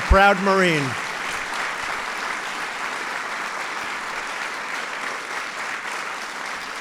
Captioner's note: applause